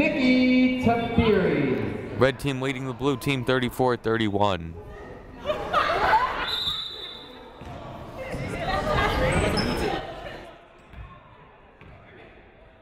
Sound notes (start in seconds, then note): 6.4 whistle blowing